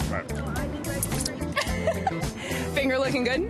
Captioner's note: laughs